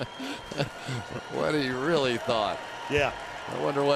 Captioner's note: laughs